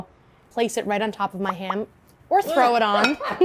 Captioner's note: laughing